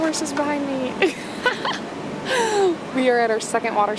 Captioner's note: laughs